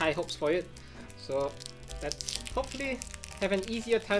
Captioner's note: wrapper crinkling